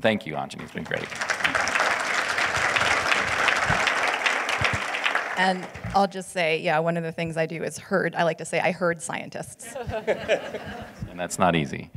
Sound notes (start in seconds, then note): 5.8 audience applauding